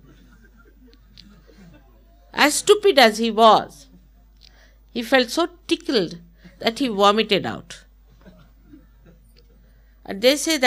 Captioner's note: laughter